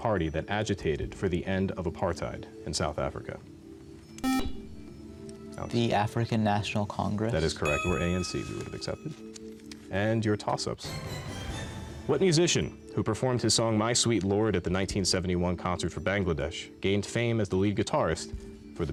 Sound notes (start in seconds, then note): 4.2 buzzer